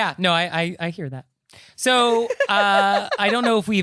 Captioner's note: giggling